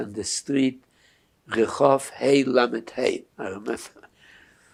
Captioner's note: hebrew